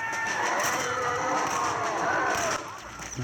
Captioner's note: sounds of zombies